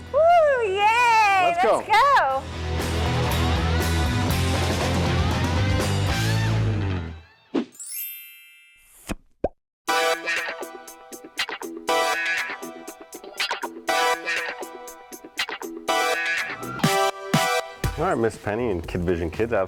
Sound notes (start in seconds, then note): 1.8 rock music; 7.6 frame whooshing; 7.8 chimes tinkling; 10.0 funky upbeat music